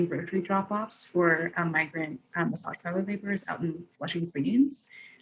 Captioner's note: voice muffling